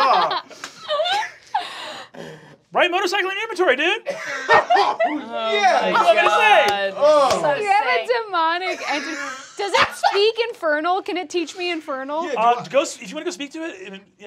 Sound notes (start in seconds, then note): 4.1 laughing